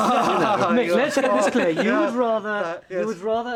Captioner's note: group laughs